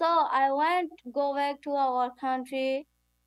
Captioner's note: none